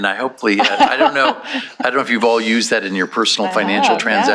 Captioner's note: laughter